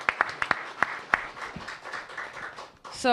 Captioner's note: applause